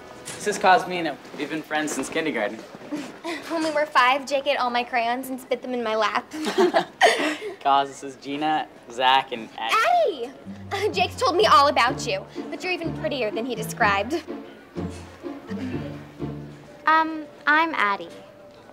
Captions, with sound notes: This is Cosmina, we’ve been friends since kindergarten. When we were five, Jake ate all my crayons and spit them in my lap. [laughing] Coz, this is Gina, Zack and Ad… - Addie! Jake’s told me all about you! But you’re even prettier than he described. Um, I’m Addie.